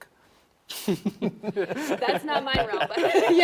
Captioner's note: laughs